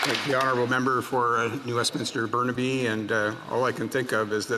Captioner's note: some Applause